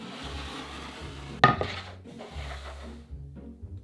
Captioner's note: cutting board sliding